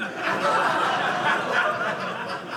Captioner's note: audience laughing